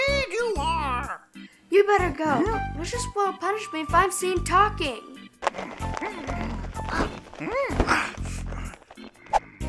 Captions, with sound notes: - Indeed you are. - You better go, Lucious will punish me if I'm seen talking. (flapping)